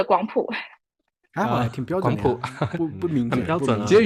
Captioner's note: guangdong dialect